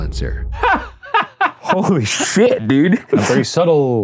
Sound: Shane laughing

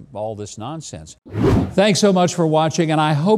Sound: logo whooshing

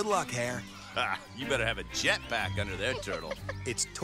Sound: giggling

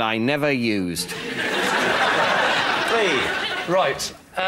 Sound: laughter

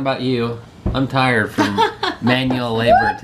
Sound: laughs

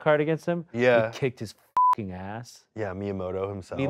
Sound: beep

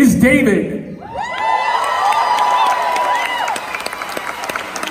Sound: crowd cheers

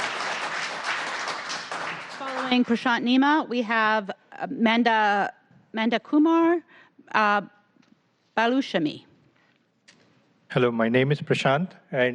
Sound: applause

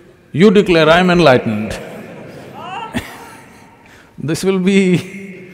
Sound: laughter

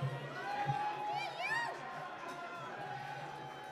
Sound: applause

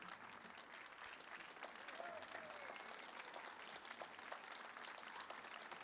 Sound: audience cheers and applauds

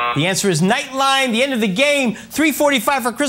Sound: buzz

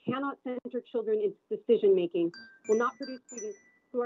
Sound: chime

